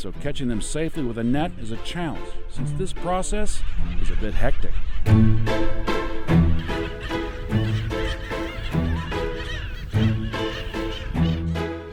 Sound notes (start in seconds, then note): 5.4 birds squawking; 5.4 whimsical music continues